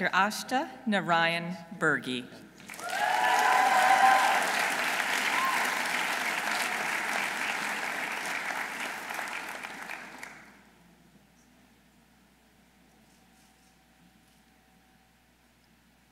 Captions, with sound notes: Dr. Ashta Narain Birgy. -(audience cheering) -(audience applauding)